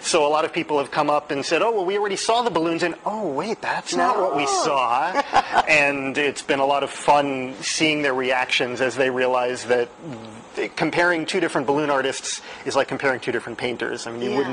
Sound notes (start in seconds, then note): 5.0 laughter